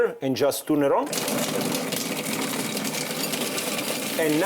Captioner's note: food processor grinding